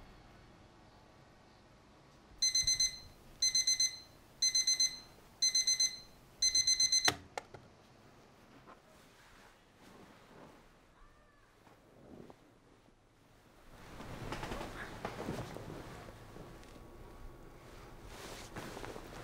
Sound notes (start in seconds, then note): 2.4 alarm beeping; 15.0 blanket rustling